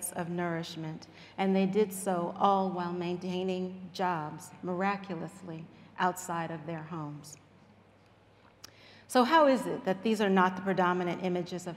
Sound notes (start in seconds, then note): none